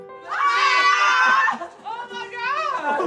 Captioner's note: loud cheering